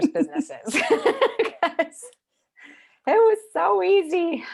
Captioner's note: both laughing